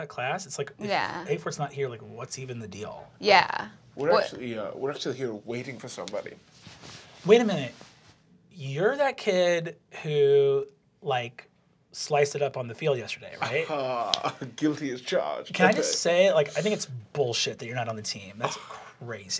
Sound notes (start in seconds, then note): 13.4 chortling